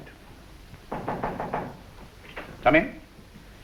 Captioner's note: door knocks